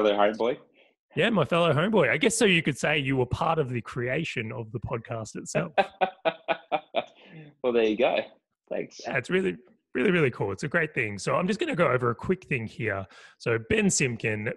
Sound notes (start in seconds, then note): 5.5 laugh